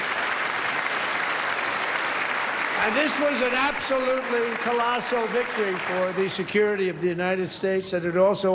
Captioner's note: applause